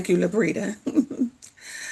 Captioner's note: chuckling